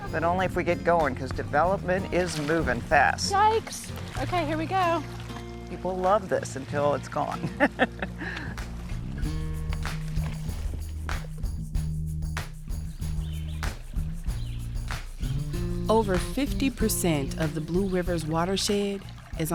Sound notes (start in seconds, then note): 7.4 laughs; 11.4 cheery music